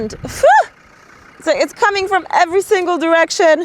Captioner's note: person shouting